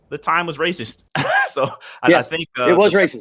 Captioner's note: laughs